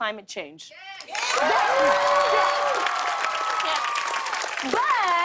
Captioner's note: cheers and applause